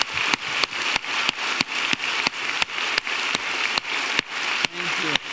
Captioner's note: audience applauding